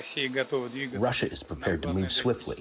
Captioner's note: through translator